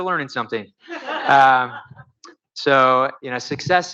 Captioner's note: audience laughs